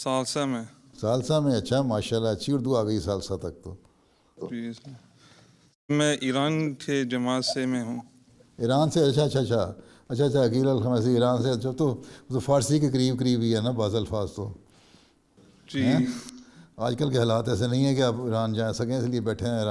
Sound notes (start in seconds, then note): 13.1 in Urdu